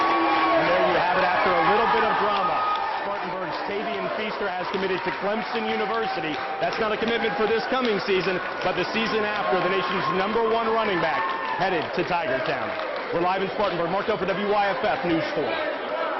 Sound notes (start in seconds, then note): 2.7 applause